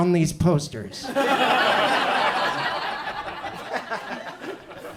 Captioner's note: audience laughs